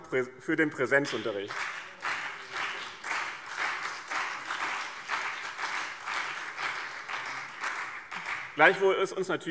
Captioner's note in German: Beifall BÜNDNIS 90/DIE GRÜNEN und CDU